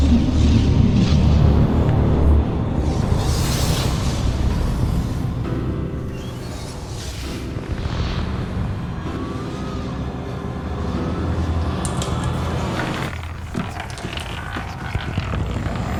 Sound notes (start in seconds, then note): 0.2 ominous orchestral music; 0.2 wind rushing; 9.6 marble rattling; 9.6 wind howling